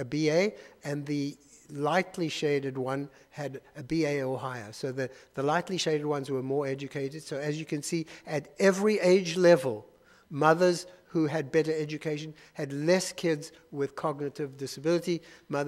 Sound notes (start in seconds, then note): none